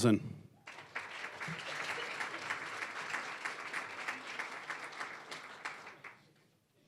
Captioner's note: applause